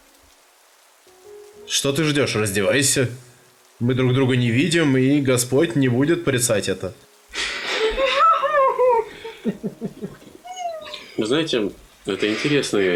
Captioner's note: the table laughs